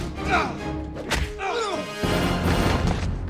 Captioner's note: groan